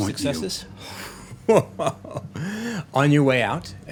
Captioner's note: laughing